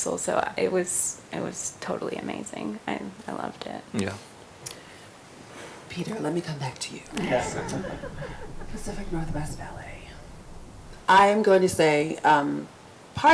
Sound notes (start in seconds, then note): 7.1 group laughs